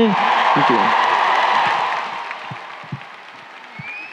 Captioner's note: crowd cheering